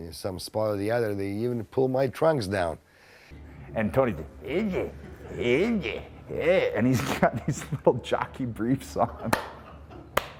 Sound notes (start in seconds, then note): 4.0 grunts; 10.1 claps